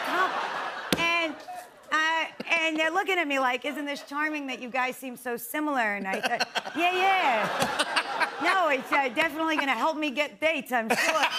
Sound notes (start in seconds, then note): 0.0 laughter; 6.0 laughter